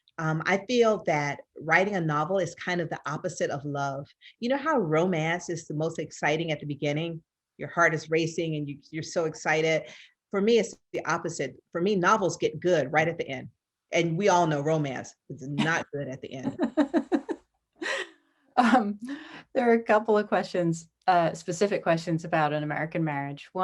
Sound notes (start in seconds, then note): 16.4 laughs